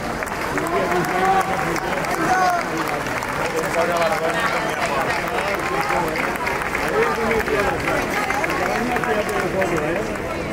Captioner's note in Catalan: Aplaudiment